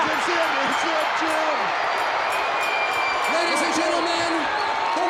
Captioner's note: crowd cheers; bell rings